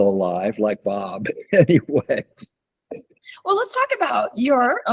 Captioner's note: laughs